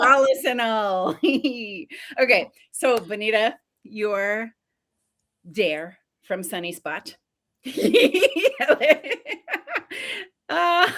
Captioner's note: laughs a lot